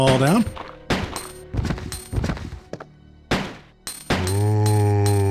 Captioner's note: gunshots